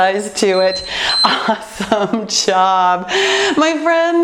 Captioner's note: timer beeping